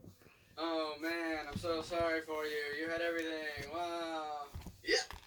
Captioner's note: sarcastically